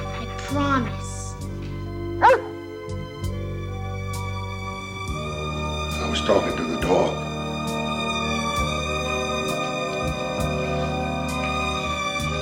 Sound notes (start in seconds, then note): 2.2 dog whines